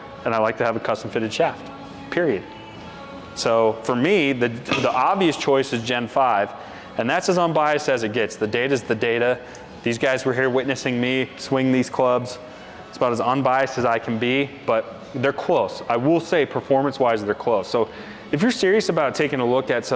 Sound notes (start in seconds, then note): 4.6 club thuds